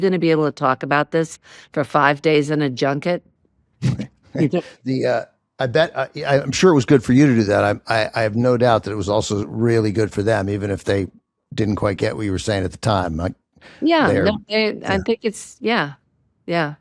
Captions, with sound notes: to talk about this for five days in a junket?" (LAUGHING) I bet-- I'm sure it was good for you to do that. I have no doubt that it was also really good for them, even if they didn't quite get what you were saying at the time. Yeah, I think it's... Yeah, yeah.